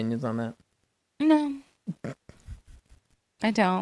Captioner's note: laughs